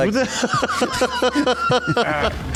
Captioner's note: laughter